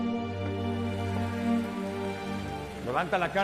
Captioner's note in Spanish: Aplausos